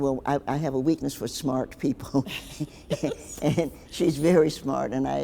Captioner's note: both laughing